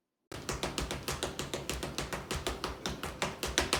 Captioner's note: tapping